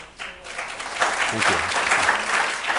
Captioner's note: audience applauds